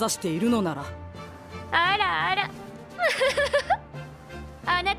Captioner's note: laughs